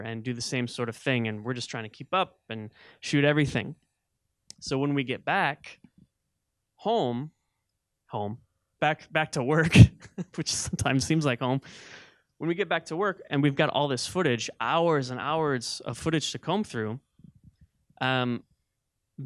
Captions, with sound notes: and do the same sort of thing, and we're just trying to keep up and shoot everything. So when we'd get back... home. (chuckling) "Home"? Back to work, which sometimes seems like home. (laughing) When we'd get back to work, and we've got all this footage, hours and hours of footage to comb through,